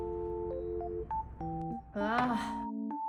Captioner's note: gulp, gulp